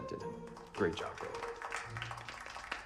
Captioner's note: class applauding